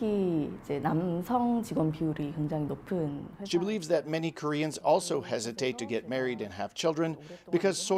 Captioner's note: speaking alternate language